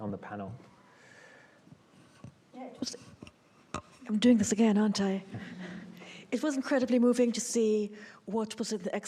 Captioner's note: checking the microphone